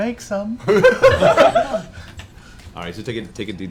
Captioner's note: laughter